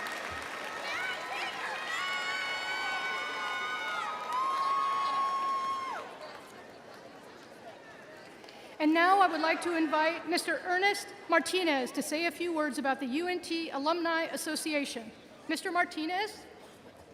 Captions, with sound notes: (cheering continues) And now I would like to invite Mr. Ernest Martinez to say a few words about the UNT Alumni Association. Mr. Martinez?